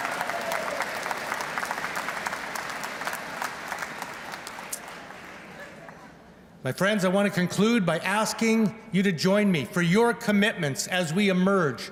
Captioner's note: applause; laughter